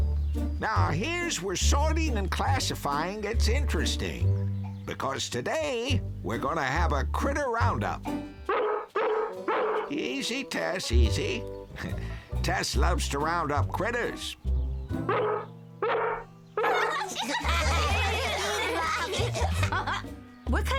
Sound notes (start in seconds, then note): 8.4 barking; 15.0 barking; 16.6 all laughing